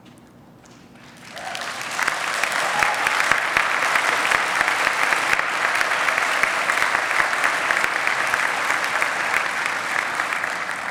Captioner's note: applause